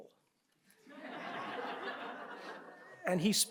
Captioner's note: audience laughs